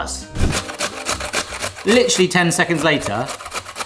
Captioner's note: vegetables grating